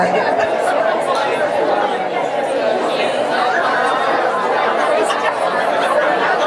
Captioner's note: audience murmurs excitedly